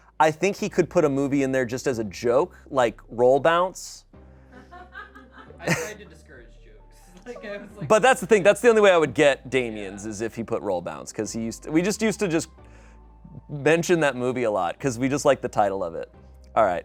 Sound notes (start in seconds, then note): 4.5 people laugh